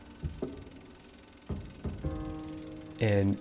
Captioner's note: piano music; projector clicking